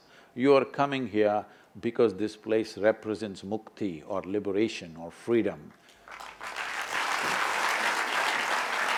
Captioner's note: applause